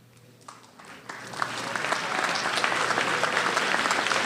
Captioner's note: applause